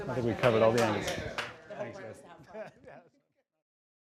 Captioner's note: laughs